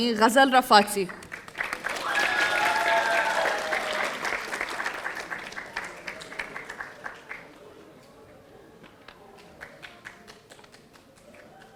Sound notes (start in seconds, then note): 1.1 audience applauding; 1.7 audience cheering